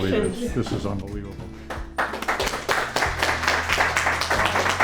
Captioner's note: clapping